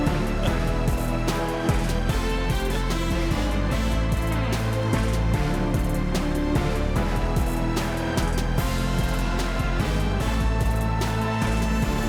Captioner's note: applause